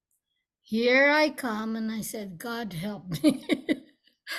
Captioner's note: laughs